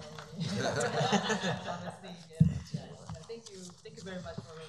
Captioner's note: laughing